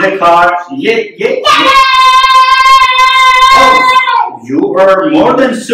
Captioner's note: screams